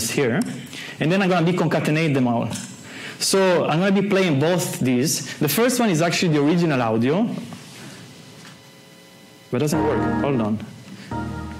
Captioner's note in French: le son de Windows se lance